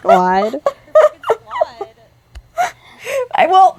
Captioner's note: laughter